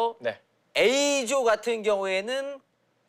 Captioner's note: none